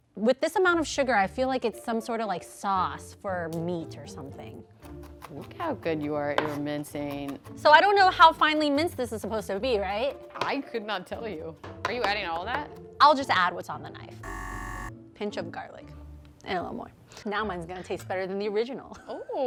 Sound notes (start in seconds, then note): 4.5 chopping sound; 14.2 buzzer ringing